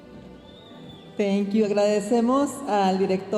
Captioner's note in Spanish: hablando en inglés